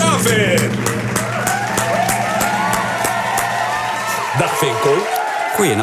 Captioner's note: applause